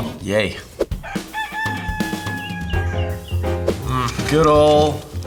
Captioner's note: rooster crowing